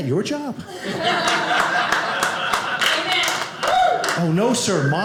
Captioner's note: audience laughing